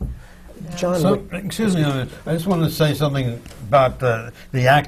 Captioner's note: none